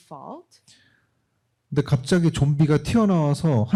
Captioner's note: speaking korean